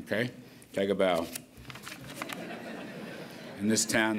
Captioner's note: laughter